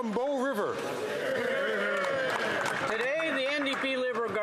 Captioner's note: some Applause